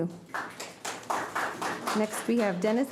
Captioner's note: audience applauding